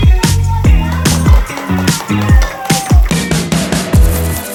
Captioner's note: applause; upbeat music